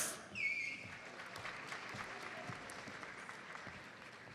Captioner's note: audience member whistles